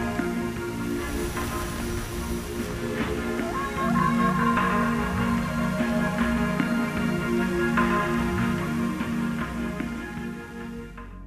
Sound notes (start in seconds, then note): 2.3 static hissing